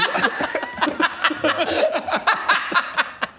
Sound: resourceful laughter

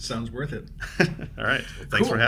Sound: laughs

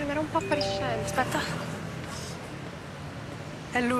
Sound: cell phone notification

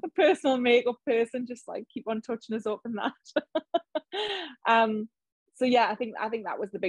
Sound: laughs

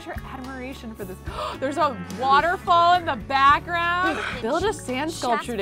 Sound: gasps

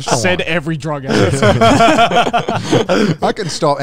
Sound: everyone laughs

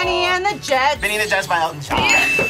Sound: buzzer rings

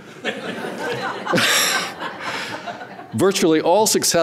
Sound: audience laughing

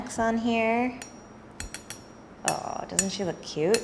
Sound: metal softly clanging

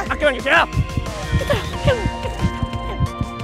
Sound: heart pounding

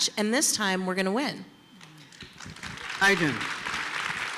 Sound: applause

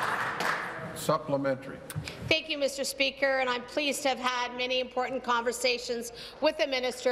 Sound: applause

